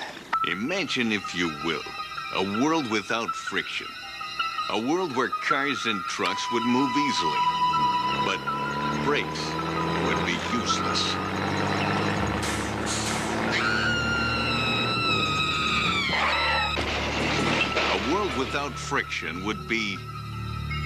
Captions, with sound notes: IMAGINE, IF YOU WILL, A WORLD WITHOUT FRICTION. A WORLD WHERE CARS AND TRUCKS WOULD MOVE EASILY BUT BRAKES WOULD BE USELESS. ( screaming ) ( crashing ) A WORLD WITHOUT FRICTION WOULD BE...